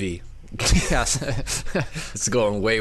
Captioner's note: laughing